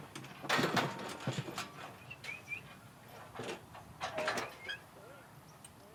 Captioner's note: gates rattling; rancher whistling